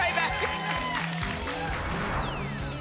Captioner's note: applause and cheering cont